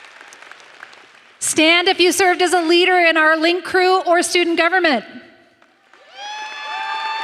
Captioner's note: applause